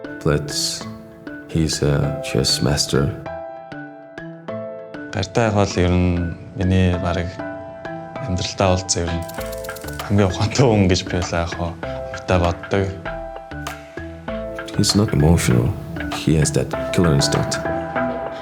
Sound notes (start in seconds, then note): 0.1 in English; 4.8 in Mongolian; 14.5 in English